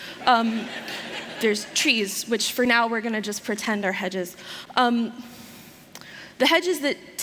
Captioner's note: laughter